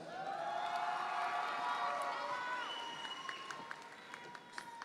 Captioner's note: audience members cheer